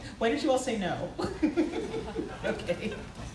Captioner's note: laughs